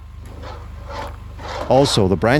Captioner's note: metal scrapping